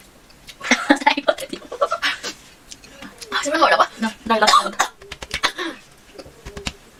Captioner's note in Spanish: risas